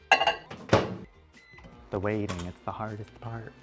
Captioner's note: microwave beeping